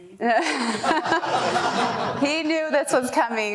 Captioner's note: laughing